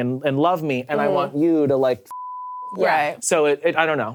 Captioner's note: beep